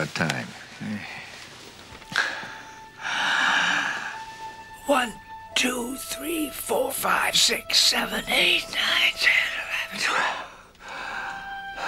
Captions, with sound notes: Well, uh, let me show you something about time. [Takes Deep Breath] [Whispering] One, two, three, four, five... six, seven, eight, nine, ten, eleven, twelve.